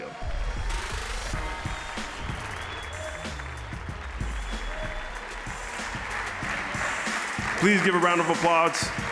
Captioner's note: applause